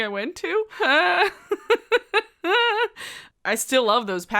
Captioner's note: laughs